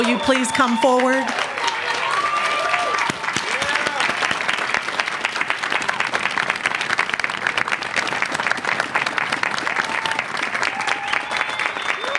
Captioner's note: applause